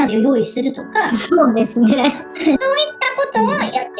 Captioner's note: laughs